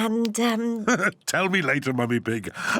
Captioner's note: laughs